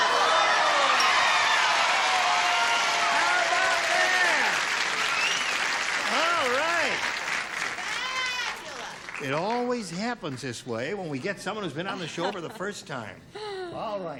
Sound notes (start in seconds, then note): 0.9 cheering